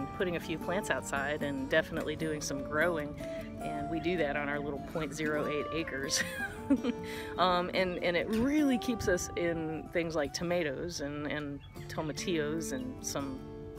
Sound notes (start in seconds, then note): 6.4 chuckle